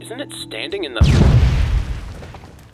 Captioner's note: explosion